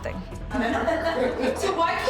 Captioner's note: laughing